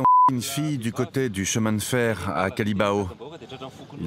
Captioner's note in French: bip